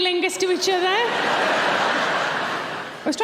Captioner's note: audience laughing